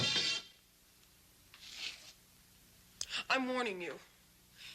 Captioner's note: none